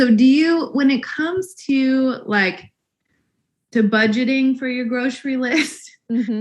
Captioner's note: laughs